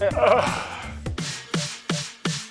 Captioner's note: laughs; grunts; upbeat music